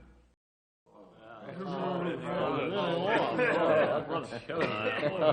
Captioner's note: crowd chattering